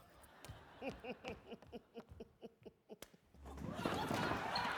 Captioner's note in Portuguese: Lola laughs; audience laughing